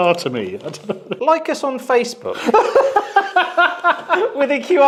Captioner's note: laughs